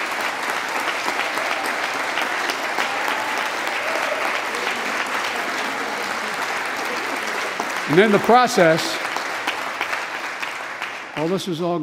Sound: applause

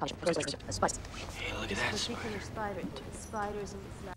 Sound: whispering

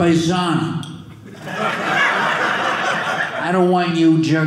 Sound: audience laughing

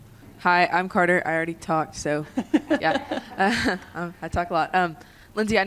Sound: laughter

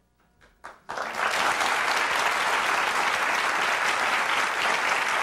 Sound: audience applauding

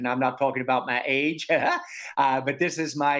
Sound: laughing

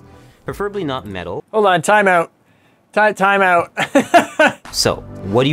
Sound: laughs

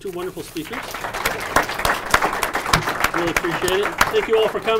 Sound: audience applauding

